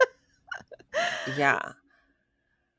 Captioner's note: laughing